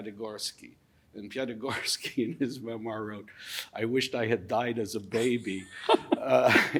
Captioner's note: laughing